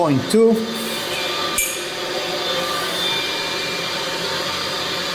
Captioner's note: pipes hum